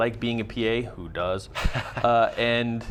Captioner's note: laughs